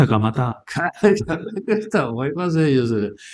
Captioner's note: laughs